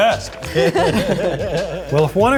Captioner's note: group laughs